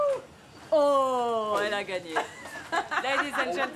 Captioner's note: foreign language